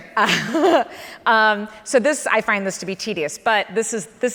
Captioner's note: laughs